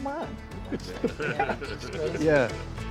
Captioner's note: John chuckles